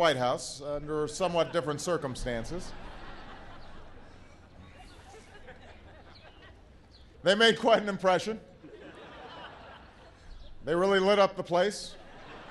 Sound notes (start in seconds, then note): 2.8 laughter